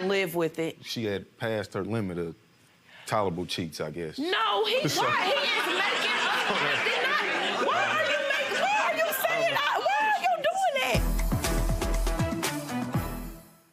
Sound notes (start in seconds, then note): 4.8 audience laughs; 11.0 dramatic music